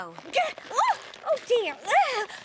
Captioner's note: grunting